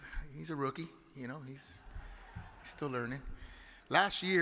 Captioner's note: audience chuckles